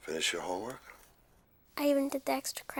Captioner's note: none